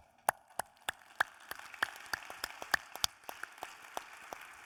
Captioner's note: audience applauding